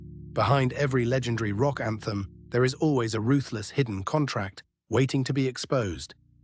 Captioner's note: SFX: final cinematic fade out